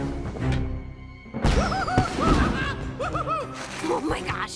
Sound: Hooty laughing

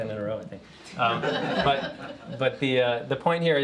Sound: laughter

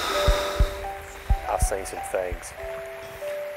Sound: romantic movie on tv

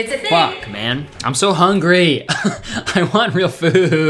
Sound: laughing

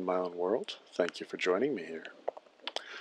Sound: series of soft clicks

